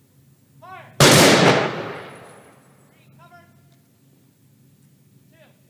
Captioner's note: gun salute